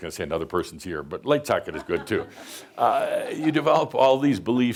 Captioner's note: some chuckles